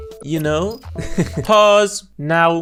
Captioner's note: out of script laughter